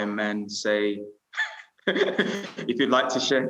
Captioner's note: laughing